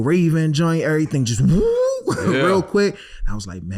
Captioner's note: yells